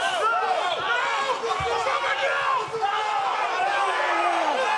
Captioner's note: group yelling